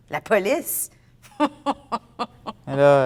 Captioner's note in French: Rire